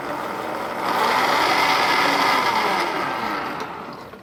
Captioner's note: blender whirring